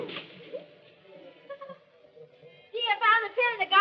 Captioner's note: laughs